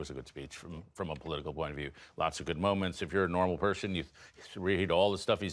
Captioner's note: none